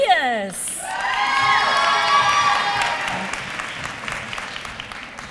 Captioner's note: applause